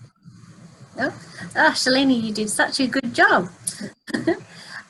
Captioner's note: laughs